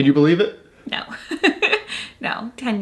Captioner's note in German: lacht